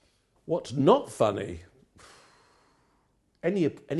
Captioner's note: sighing